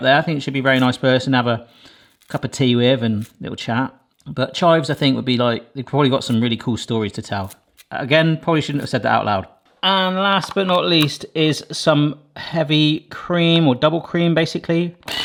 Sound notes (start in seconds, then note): none